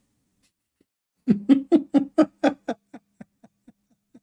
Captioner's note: Ketawa